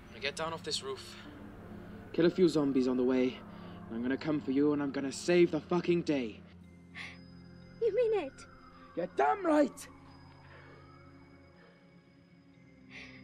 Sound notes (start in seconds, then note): none